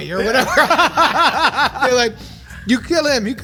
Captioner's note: they laugh